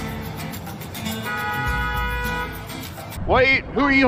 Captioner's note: honnnnnk